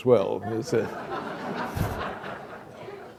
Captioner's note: laughter